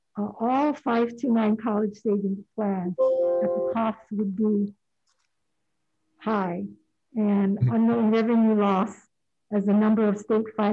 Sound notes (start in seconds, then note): 3.0 digital notification dinging